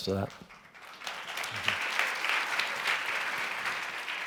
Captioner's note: clapping